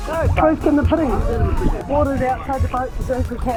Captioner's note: shouting and splashing